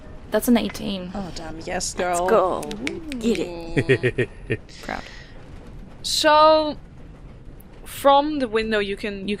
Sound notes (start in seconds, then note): 2.6 snaps